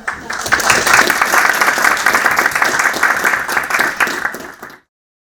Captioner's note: audience applauding